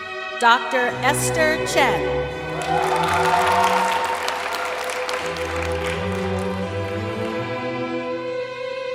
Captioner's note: applause